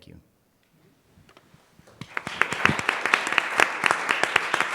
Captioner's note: applause